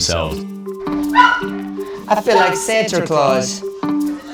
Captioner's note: puppies barking